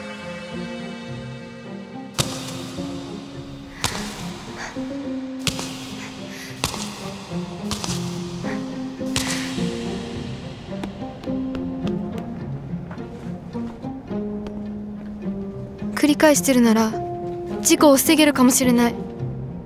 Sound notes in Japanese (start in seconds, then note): 3.5 息づかい